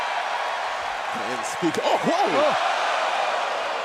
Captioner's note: cheers and applause